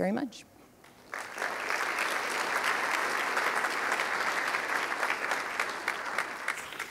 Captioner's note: applause